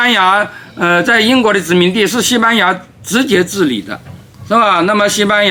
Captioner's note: Spanish